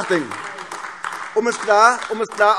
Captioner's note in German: Beifall AfD